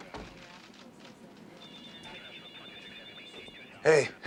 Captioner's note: telephone ringing